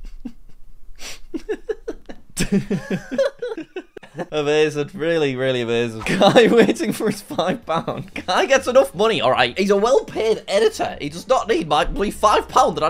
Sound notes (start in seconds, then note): 1.0 video laughs; 1.1 both laughs